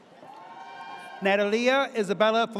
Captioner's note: audience cheers